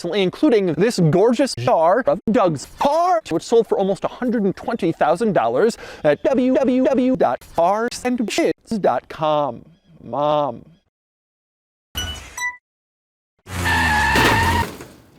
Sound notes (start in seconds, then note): 11.9 beep boop; 13.4 tires screeching and collision